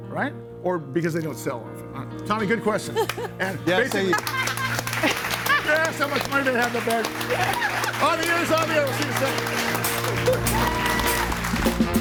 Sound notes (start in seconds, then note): 3.2 clapping; 4.0 audience applauds; 4.0 everybody laughing; 7.3 audience applauds; 11.8 audience applauds; 11.8 upbeat music